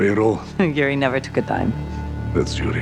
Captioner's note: chuckles; laughs